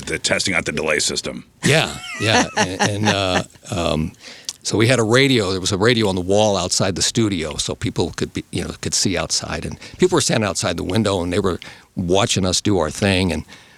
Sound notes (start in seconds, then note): 4.2 laughing